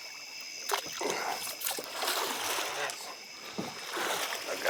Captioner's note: water splashing